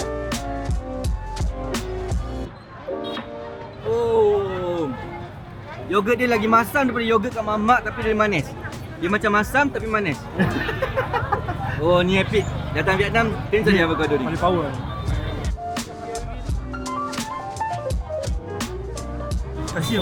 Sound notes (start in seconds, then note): 0.0 background music; 10.2 laugh; 15.2 background music